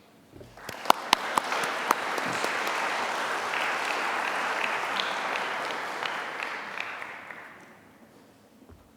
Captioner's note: applause